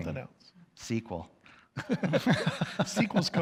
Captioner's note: laughs